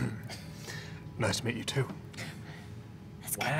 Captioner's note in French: s'éclaircit la gorge; voix plus grave, imitant Kattigan